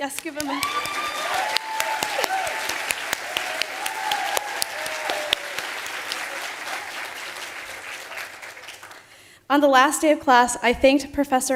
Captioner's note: applause